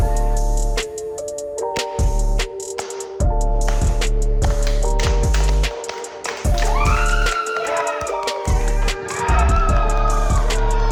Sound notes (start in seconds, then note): 0.2 hip hop music; 1.9 all clapping; 6.4 all cheering